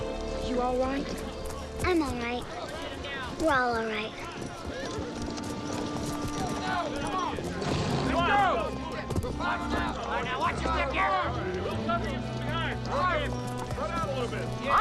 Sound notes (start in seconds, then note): 5.7 tense music softens; 8.0 posse hollering